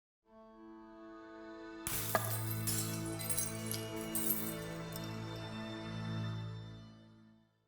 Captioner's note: dramatic music; glass crashing